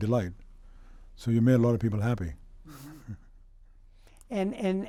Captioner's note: laughs